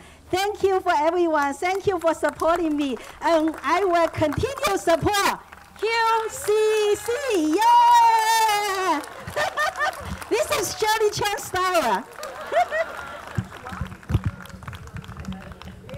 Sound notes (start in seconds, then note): 4.9 laughs; 9.4 audience clapping